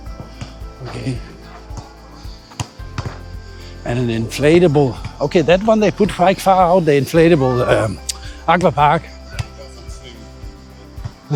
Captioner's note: laughter